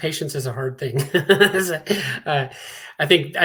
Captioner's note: laughs